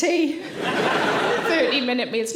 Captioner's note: audience laughing